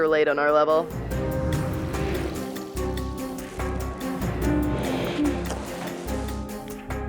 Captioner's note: suspenseful music; water trickling